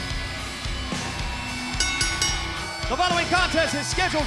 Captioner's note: bell ringing